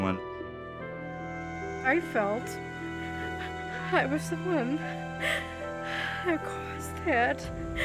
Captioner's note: crying